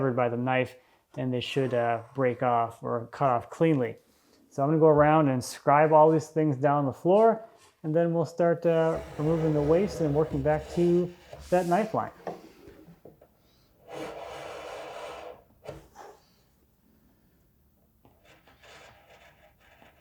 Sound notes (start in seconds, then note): 14.4 knife scraping